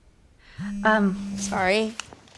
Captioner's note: phone vibrating